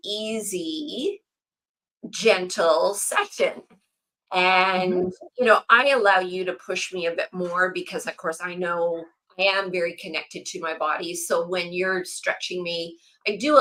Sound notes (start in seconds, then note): 4.8 laughs